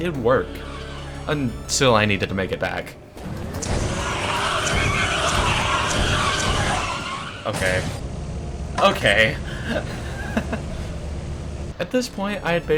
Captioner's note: explosion